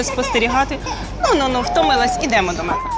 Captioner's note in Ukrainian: плач дитини